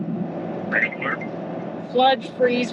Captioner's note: alarm rings; electronic Voice